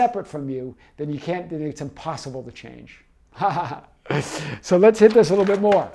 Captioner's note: laughing